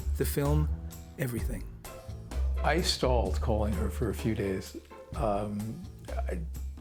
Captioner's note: none